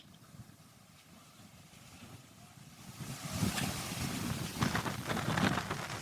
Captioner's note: wind